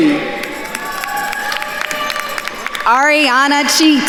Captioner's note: attendees cheering and applauding